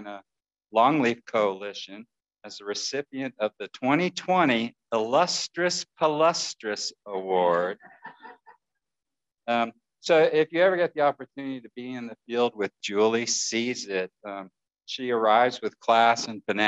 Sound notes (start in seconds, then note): 7.9 laughter